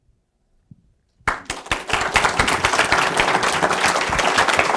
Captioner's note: audience applause